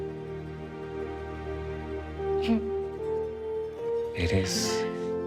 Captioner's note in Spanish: Sollozos